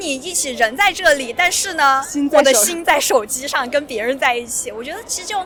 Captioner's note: talking